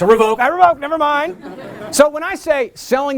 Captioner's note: laughter